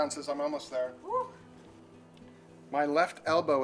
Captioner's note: camera operator sighs